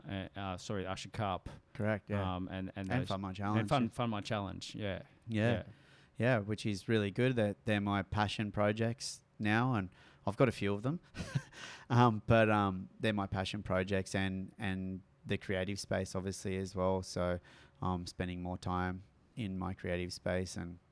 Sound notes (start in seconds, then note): 11.2 chuckles